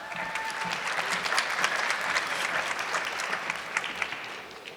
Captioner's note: audience clapping